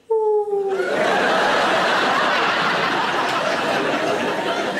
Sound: audience laughing

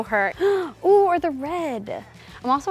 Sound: gasps

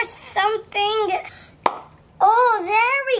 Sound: cap pops off

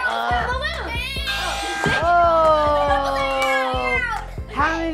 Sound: buzzer

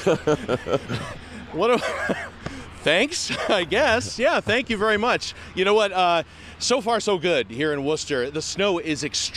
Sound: laughter

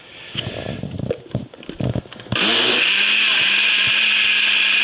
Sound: blender running

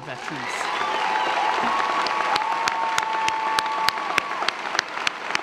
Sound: audience applauding; audience cheering

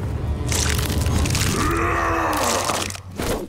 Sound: grunting

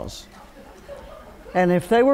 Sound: laughter

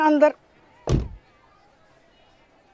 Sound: car door closing

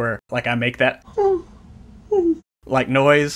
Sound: whimpers

